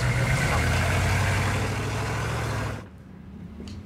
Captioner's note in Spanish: Ruido al acelerar